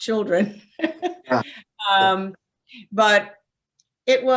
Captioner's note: laughs